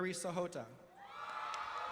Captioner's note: applause